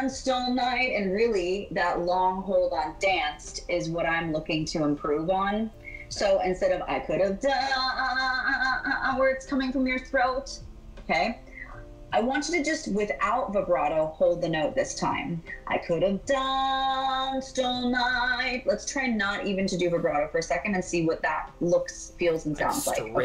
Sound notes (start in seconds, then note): 7.2 stammers